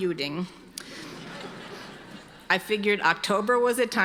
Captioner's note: audience laughing